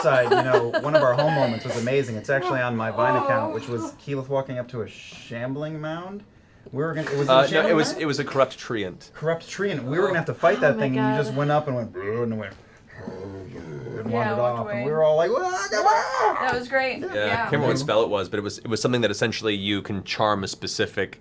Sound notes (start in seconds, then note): 12.8 groaning; 15.4 yelling